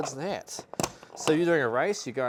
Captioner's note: lock clicking